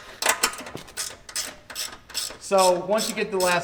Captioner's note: ratchet clicking